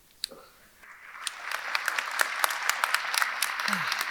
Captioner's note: audience clapping